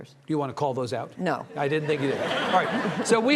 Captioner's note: audience laughing